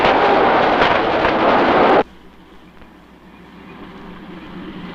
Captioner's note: driving sound